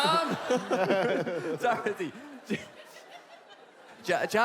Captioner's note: more laughte